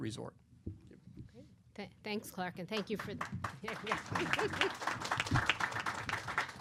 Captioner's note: applause